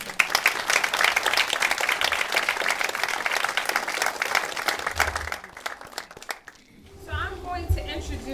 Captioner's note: applause